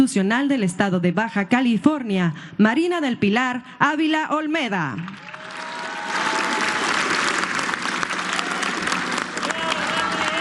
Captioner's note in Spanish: aplausos